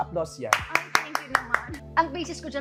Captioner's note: clapping